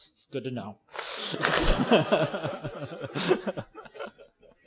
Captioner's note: laughter